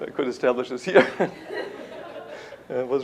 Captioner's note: laughter